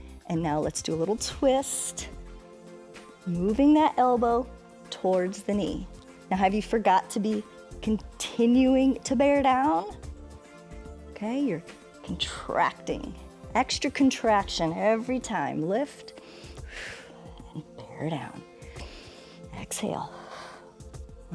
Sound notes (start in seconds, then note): 16.1 inhales and exhales; 18.5 exhales; 18.5 inhales